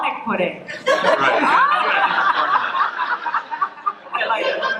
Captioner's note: laughter